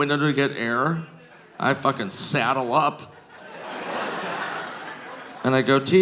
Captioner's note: audience laughing